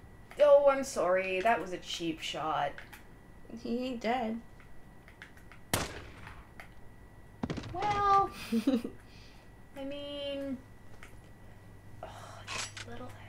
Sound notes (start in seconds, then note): 5.7 gunshot